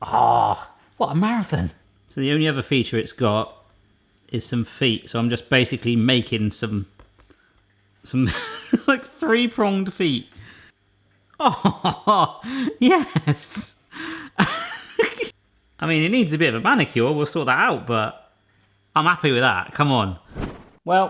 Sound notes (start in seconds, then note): 14.0 laughing